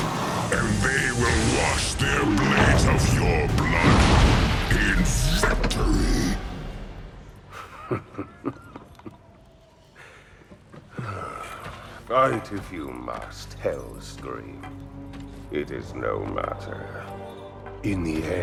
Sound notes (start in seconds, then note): 7.5 giggle; 10.9 sigh